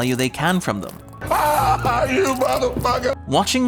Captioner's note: screaming